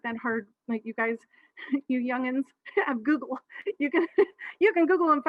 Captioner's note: laughs